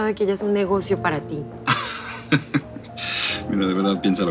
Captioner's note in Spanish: Risas